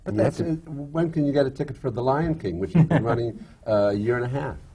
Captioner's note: laughs